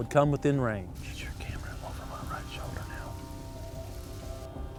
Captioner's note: whispering